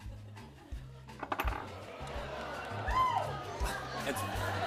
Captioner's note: audience groans